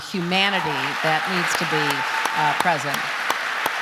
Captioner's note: audience applause